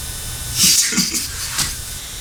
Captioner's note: snickers